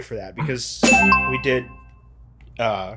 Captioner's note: bell dings